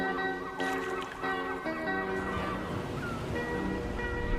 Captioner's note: gulls squawking